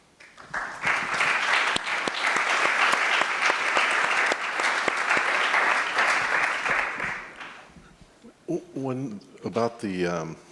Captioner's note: applause